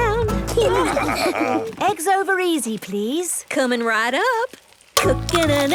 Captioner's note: laughing